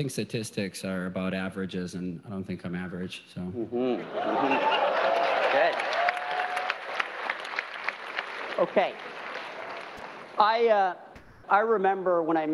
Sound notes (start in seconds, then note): 2.3 audience laughter; 4.6 applause